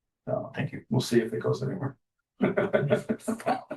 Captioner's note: laughter